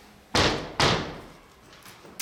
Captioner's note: knocking sound